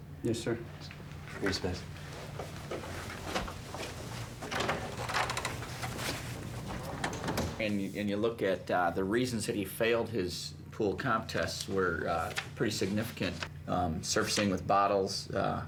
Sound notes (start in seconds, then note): 3.2 door creaks open; 6.5 door shuts